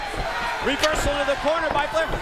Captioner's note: crowd chatter